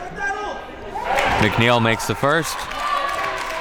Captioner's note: audience cheers